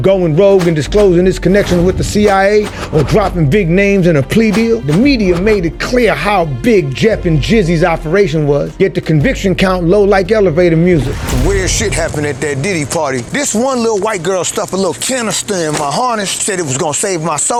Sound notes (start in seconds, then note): none